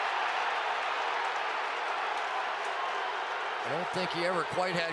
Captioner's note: cheering